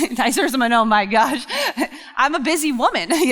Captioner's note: laughs